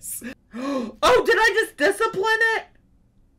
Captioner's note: gasps